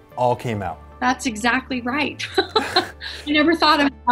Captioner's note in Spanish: risas